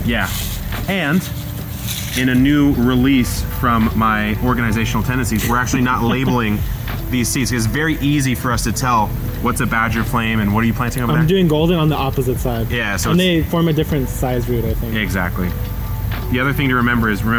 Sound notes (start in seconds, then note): 5.4 laughing